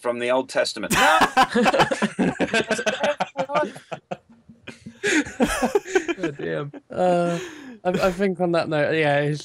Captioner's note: laughter